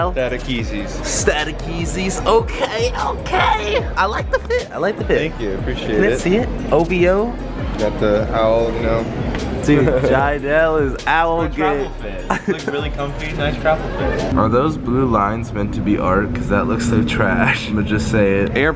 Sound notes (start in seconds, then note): 12.2 man happy laughing